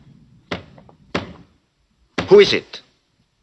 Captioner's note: knocking on door